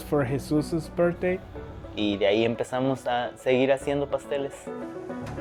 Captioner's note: speaking in Spanish